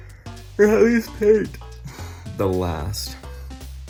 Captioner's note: yawning